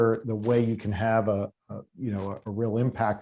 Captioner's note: none